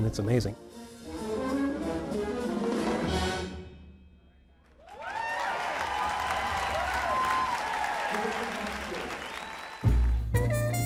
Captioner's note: applause